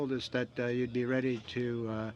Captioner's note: speaking French